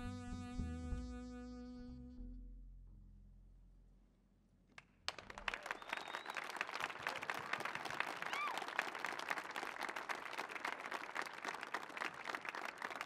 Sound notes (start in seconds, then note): 5.0 audience cheers and applauds